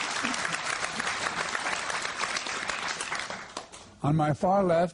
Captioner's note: applause